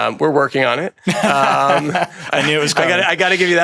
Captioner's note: everyone laughs